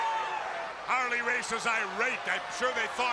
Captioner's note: crowd chatter